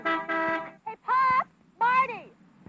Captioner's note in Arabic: صوت التزمير